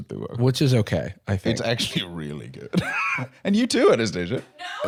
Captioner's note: laughs